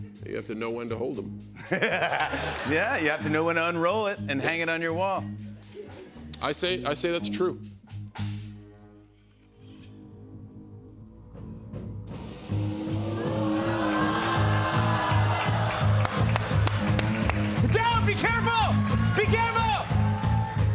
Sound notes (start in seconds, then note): 1.6 laughter; 16.5 applause